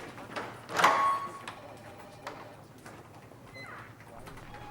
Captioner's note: phone rings